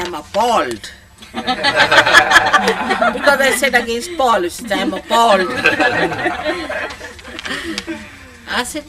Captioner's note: laughter